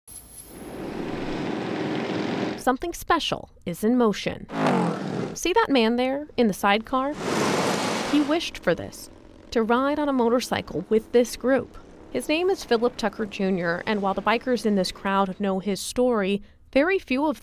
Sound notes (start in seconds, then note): 10.3 motorcyle engine roaring